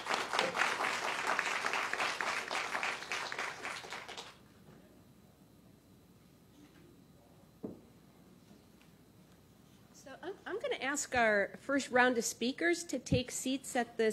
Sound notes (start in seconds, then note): 0.0 applause